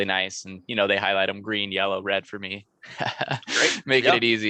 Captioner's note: laughs